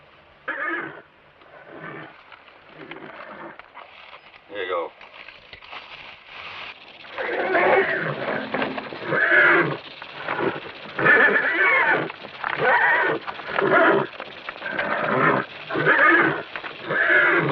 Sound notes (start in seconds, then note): 0.1 horse stirs; 11.7 rattlesnake hisses